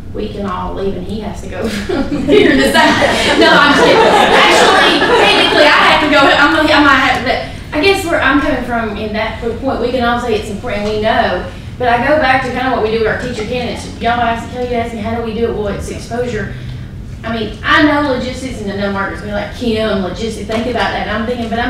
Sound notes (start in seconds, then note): 1.6 laughter